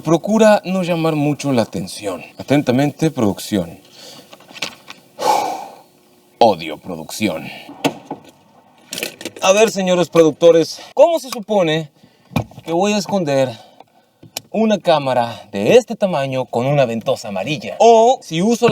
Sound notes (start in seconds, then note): 5.2 cleansing breath